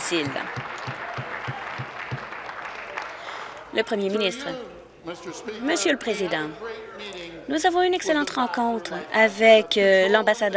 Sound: applause

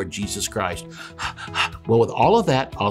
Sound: panting

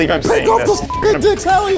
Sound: beep

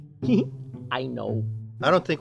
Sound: laughs

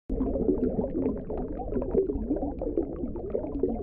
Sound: bubbles

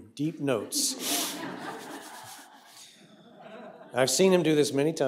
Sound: laughter

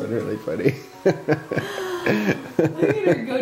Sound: parents laugh

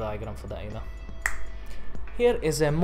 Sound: finger snap

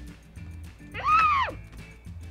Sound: squeals

